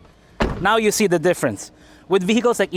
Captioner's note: door closes